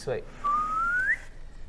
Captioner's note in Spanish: silbido ascendente